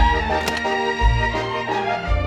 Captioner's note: door unlocking